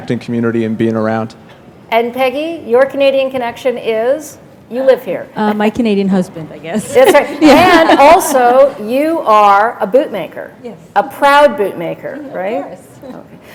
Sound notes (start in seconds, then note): 6.9 laughter